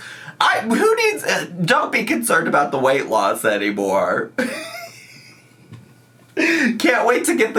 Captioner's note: laughs